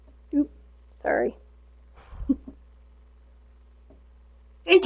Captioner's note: chuckles